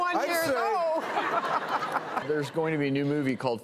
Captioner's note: audience laughs